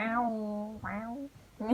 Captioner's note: meows?